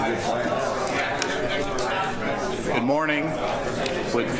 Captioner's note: background chatter